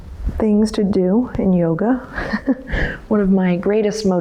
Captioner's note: laughs